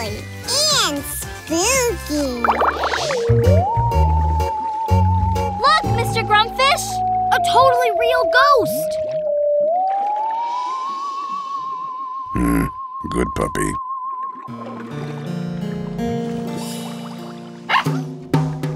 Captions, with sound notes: And spooky! -Look Mr. Grumpfish! -A totally real ghost! Meh, good puppy. [barking]